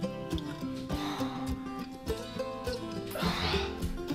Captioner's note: heavy breathing